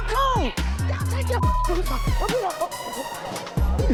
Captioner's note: beep; dramatic music